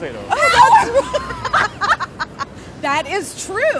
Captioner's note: laugher